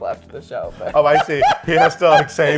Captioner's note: laughs